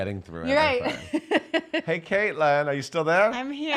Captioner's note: laughing